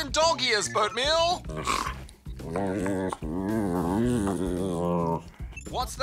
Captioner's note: whines, snorts